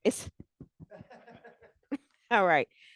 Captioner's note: laughter